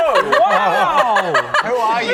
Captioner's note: delighted giggles